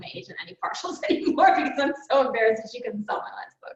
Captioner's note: laughs